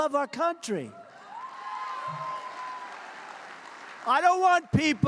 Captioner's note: applause